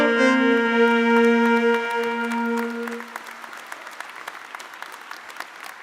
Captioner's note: audience applauding